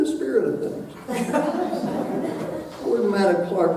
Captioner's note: audience laughing